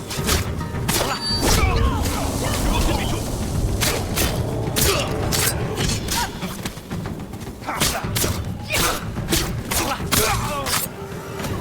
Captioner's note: men grunting